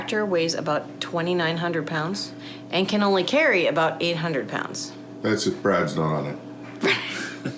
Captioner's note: laughing